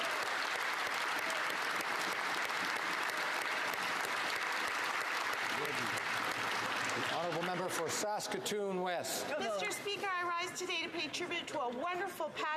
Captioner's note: applause